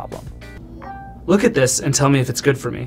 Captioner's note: pin beeping